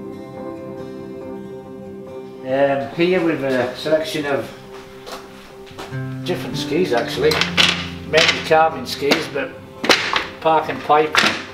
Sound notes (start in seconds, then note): 0.2 soft guitar music; 7.3 skis clacking